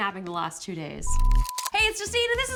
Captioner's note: beeps